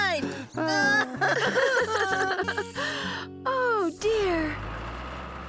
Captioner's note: laughing